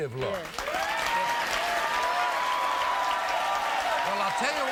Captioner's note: audience cheering and applauding